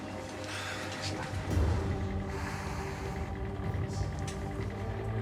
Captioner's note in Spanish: ruido del motor andando